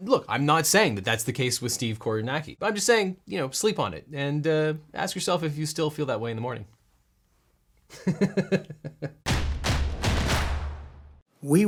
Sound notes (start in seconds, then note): 7.9 laughing; 9.2 dramatic percussion